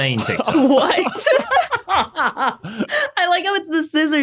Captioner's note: others laughing